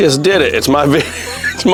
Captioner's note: laughing